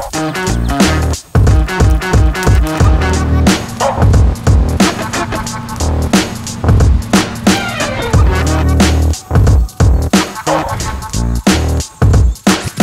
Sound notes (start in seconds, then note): 2.4 fire crackling; 4.3 jets rumbling